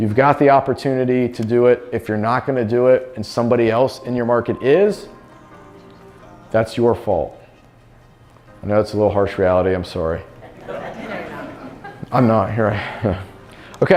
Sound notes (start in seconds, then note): 10.4 crowd talks